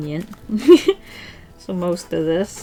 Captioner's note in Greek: Γέλια